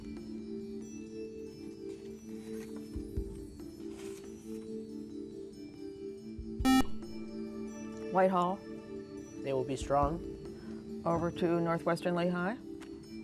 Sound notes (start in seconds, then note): 0.1 ethereal music; 6.6 beep